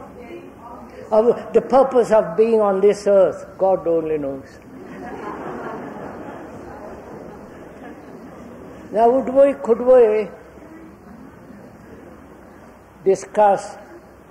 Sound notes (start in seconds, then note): 4.6 laughter